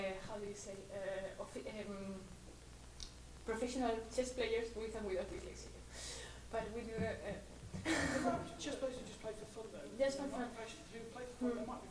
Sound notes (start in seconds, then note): 8.0 voiceover